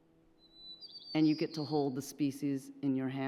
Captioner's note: birds chirping